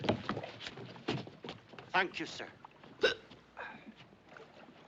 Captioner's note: Soluços